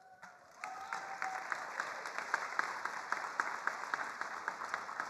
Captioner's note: attendees applauding